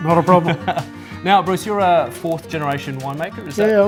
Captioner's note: laughs